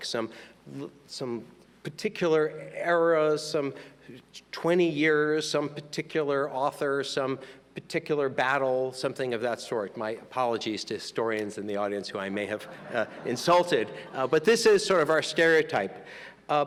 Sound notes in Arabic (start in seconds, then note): 12.6 يضحك الجمهور